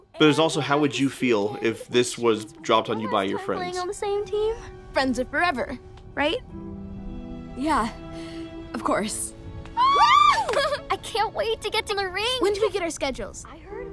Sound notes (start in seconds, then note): 9.7 girls squee